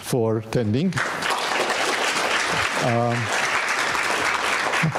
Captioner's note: audience applauding